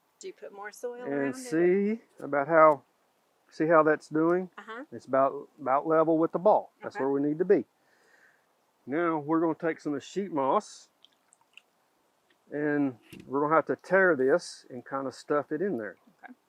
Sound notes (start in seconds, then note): 10.9 water dripping